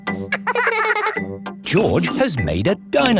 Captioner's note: both laughing